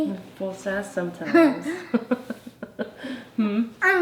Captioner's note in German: lacht